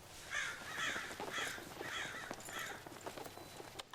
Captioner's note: crows cawing